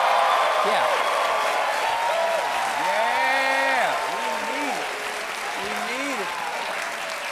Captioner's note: cheers and applause